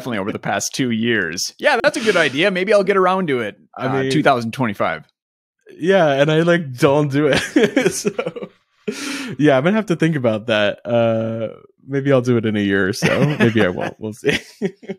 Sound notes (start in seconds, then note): 7.3 laughing